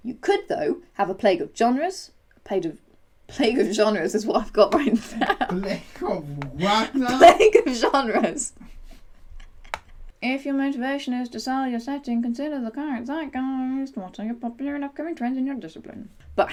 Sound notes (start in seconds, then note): 9.6 laughter